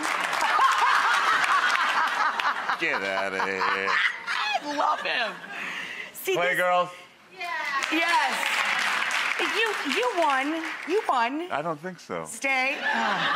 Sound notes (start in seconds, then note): 0.3 laughing; 7.6 applause